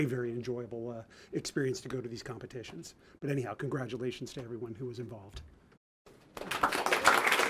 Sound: applause

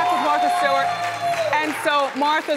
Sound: audience clapping

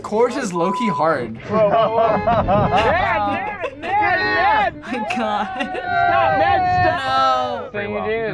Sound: tires squealing; laughs

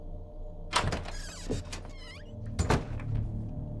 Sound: door opens

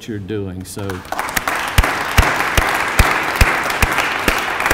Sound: applause

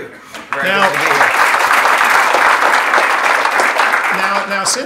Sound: audience clapping

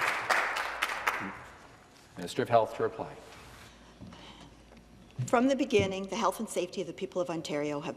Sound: some Applause

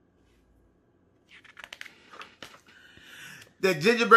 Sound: paper flipping

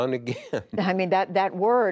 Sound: laughter

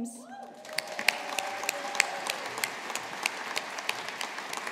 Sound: audience applauding

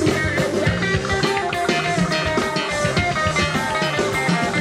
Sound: cheering

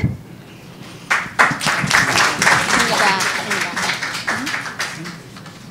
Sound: audience applauding

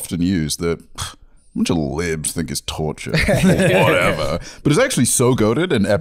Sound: scoffs

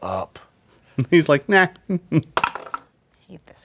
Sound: dice clatter

